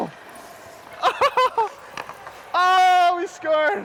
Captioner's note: laughs